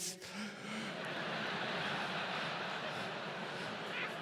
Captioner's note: audience laughs